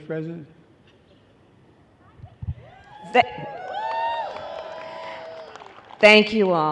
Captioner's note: applause